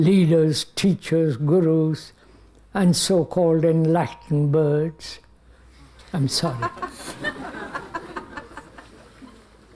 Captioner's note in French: rires